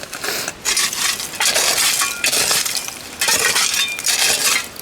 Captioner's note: shovel scraping